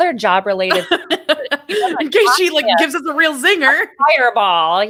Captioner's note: laughs